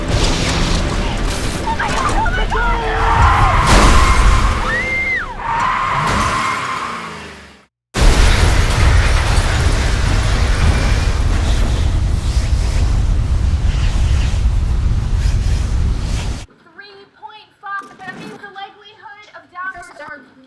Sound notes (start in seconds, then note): 1.6 screams; 2.9 tires screeching